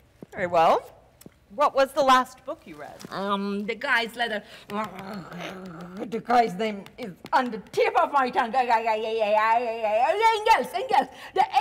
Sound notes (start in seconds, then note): 4.9 softly snarling; 8.7 lightly muttering gibberish